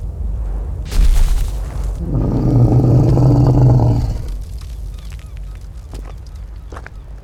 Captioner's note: dinosaur rumbles